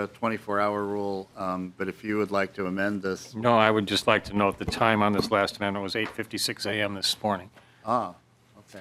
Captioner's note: gavel